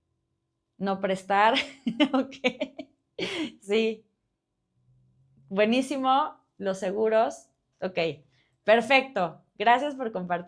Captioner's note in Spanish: risas